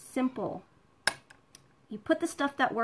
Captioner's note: clinking